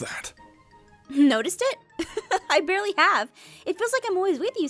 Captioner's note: laughs